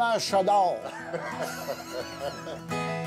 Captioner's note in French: rires